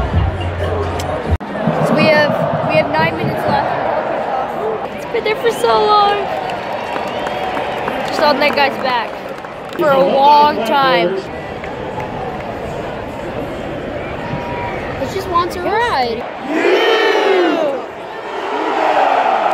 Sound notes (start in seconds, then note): 17.0 crowd